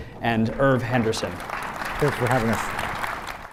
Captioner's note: audience clapping